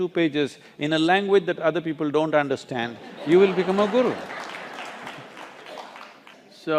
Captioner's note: laughter/Applause